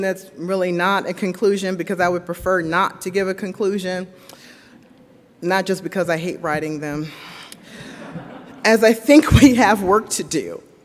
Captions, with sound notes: that's really not a conclusion because I would prefer not to give a conclusion, not just because I hate writing them. (audience laughs) As I think we have work to do,